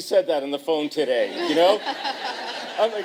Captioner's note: laughter